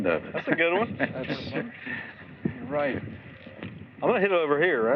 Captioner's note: chuckles